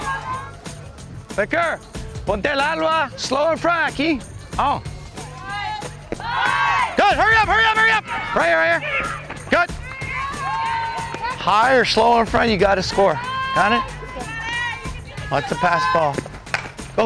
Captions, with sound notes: Becker! [speaks Spanish] Good, hurry up, hurry up, hurry up! Right here, right here, good. High or slow in front you gotta score, got it? Okay. Let the pass ball.